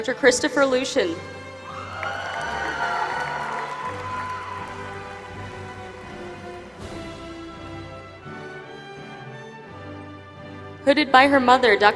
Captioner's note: applause